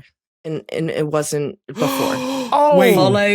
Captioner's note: gasps